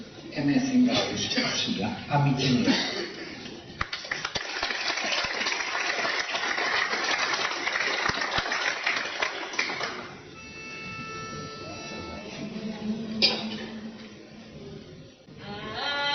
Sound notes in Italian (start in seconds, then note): 3.7 Applauso